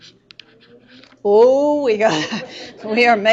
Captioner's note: laughing